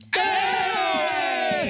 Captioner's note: cheering